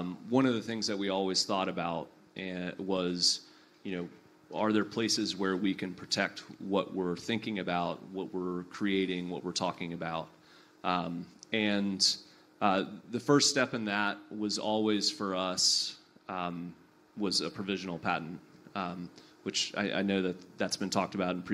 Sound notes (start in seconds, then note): none